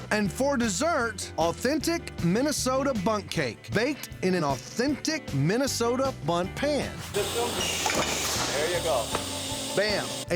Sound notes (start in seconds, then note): 7.7 thud; 8.7 claps